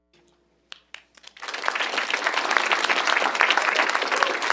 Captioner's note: audience applauding